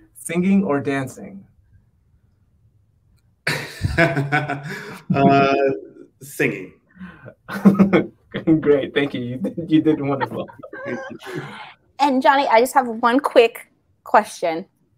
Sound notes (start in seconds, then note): 3.4 laughs; 10.7 all laughing